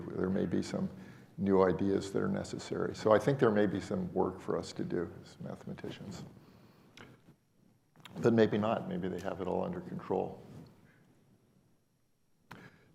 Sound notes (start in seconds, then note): none